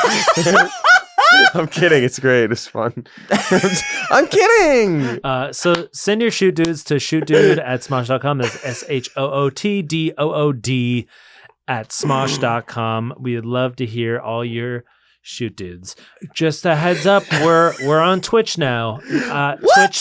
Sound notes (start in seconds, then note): 0.0 laughter; 3.3 more laughter